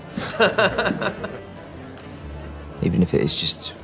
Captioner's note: laughing